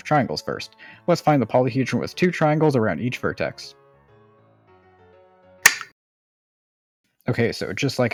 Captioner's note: disappointing click